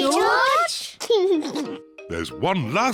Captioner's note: laughs